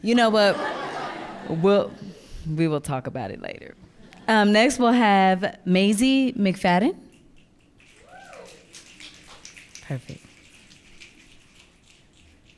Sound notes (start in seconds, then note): 0.4 audience laughing; 7.9 audience clicking and cheering